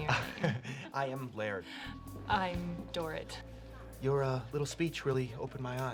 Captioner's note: woman laughs; chuckles